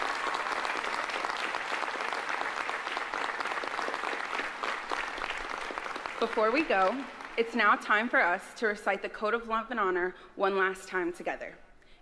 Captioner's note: applause